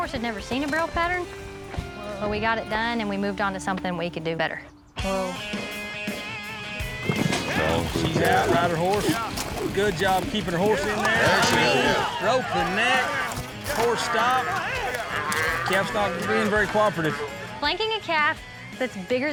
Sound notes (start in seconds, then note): 15.4 calf mooing